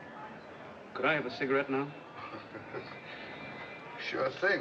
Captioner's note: chuckling